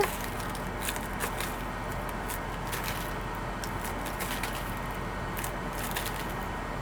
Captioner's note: lettuce crunching; air conditioner whirring